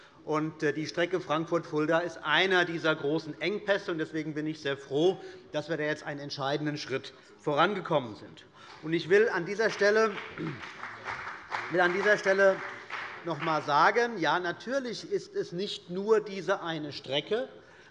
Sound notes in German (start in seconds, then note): 8.6 Beifall bei dem BÜNDNIS 90/DIE GRÜNEN und bei Abgeordneten der CDU